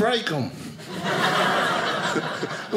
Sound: audience laughing

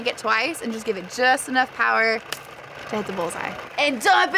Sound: clap

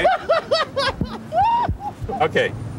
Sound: laughing

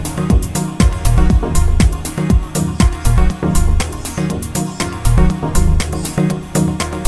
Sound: clock

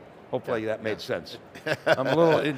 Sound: laughs

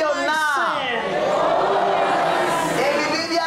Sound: audience repeats in english

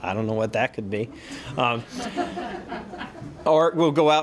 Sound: laughter

